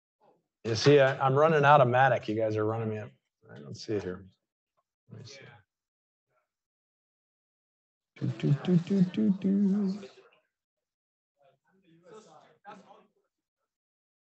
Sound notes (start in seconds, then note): 8.2 vocalizing; 10.8 chattering continues